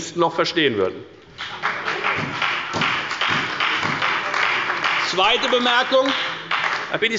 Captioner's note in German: Beifall bei der FDP und bei Abgeordneten der CDU